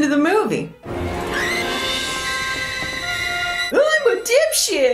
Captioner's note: Lois screams